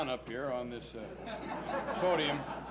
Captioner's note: laughs